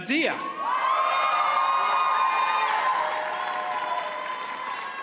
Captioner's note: audience cheers and applauds